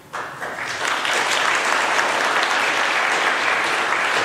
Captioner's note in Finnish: aplodeja